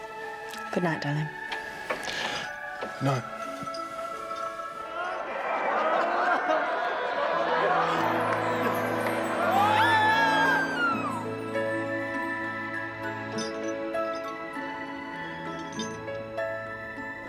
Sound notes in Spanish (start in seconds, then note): 5.2 Gritando; 5.2 charla de fiesta; 12.0 música suave; 13.3 traqueteo de la cadena